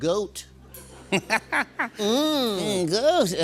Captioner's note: laughs